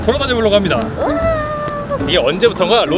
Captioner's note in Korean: 짝짝짝